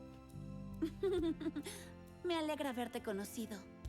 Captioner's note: giggles